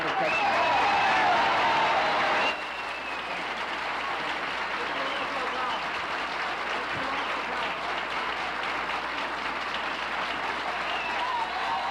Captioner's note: applauses